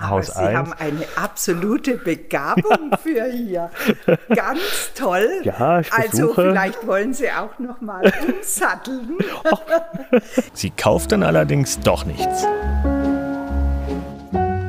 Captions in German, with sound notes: Aber Sie haben eine absolute Begabung für hier. (Er lacht.) Ganz toll. Ja, ich versuche. Also, vielleicht wollen Sie auch noch mal umsatteln. (Lachen) Sie kauft dann allerdings doch nichts. (Gemächliche Musik)